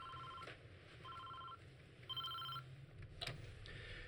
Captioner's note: cell phone ringing